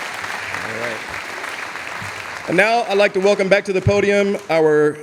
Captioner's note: audience applauding